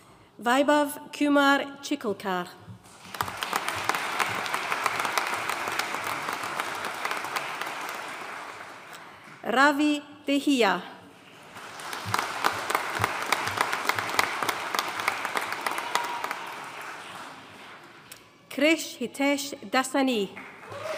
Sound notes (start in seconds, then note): 2.9 audience applauding; 11.4 audience cheering and applauding; 20.4 audience cheering and applauding